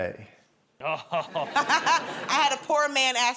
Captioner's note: chuckles